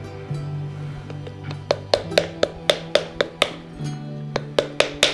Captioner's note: paddle-knocking noise